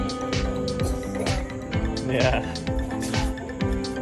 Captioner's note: laughter